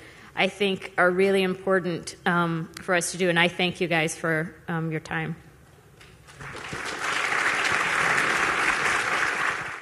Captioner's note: applause